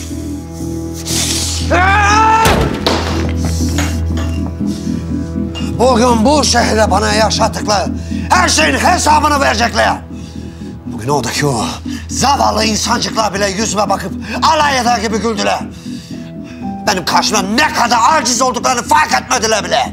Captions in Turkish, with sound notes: [bağırır] [gerilim müziği devam eder] Bugün bu şehirde bana yaşattıkları her şeyin hesabını verecekler. Bugün oradaki zavallı insancıklar bile yüzüme bakıp alay eder gibi güldüler. Benim karşımda ne kadar aciz olduklarını fark etmediler bile.